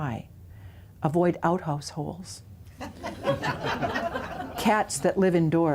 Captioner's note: laughter